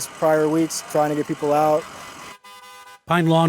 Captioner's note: horns honking